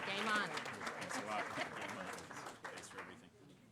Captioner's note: applause